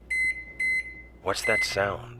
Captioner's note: microwave beeps